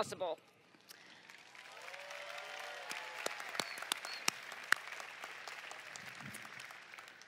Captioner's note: applause